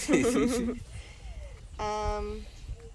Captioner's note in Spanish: risas